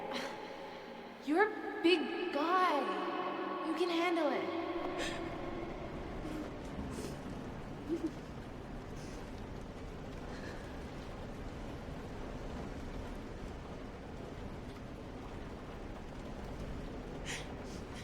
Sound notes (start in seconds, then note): 5.3 cries; 5.3 whimpers; 7.5 rain; 10.3 breath shaking